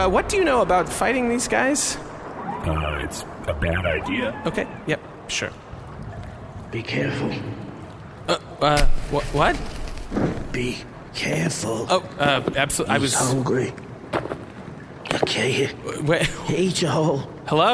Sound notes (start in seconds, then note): 9.0 echoing